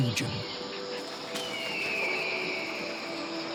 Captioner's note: birds squawk